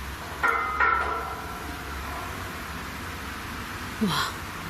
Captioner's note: railing bangs